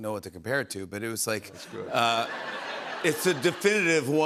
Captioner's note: laughter